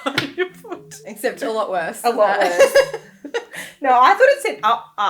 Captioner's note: laughing; laughing